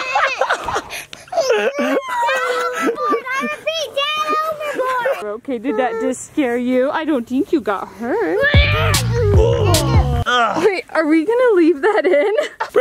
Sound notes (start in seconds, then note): 1.2 laughing; 8.6 groaning; 8.8 yelling